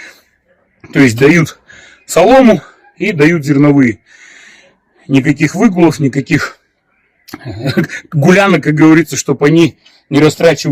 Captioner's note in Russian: смех